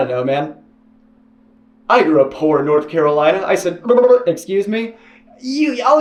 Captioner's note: motorboating